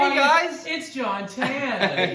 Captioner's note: laughs